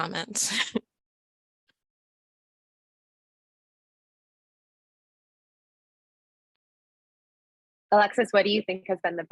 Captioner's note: laughter